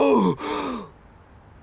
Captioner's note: gasp